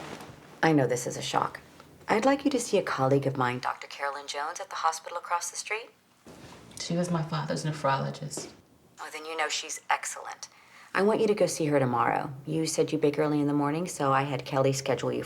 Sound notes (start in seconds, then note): none